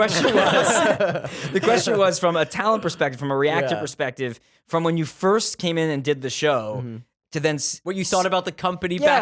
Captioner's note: laughter